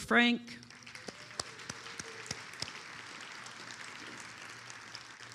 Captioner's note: attendees applauding